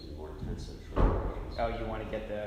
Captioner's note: door slams